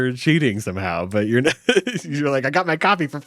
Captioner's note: laughs